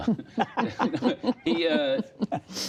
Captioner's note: laughter